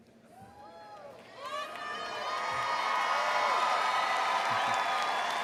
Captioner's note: crowd applauds